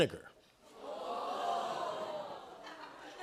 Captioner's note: audience "Ohhs"